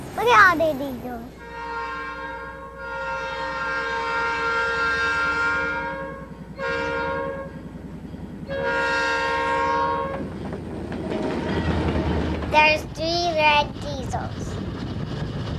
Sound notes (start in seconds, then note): 2.2 train hoots; 10.3 train whirs